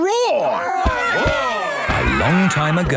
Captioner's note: all roaring